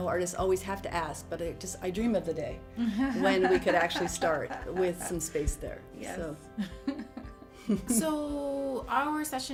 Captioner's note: laughing